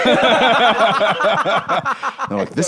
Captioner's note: both laughing